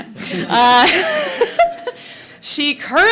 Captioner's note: laughs